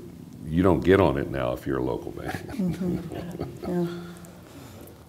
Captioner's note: laughter